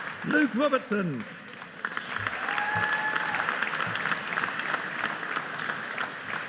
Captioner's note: audience cheering